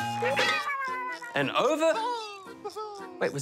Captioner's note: giggles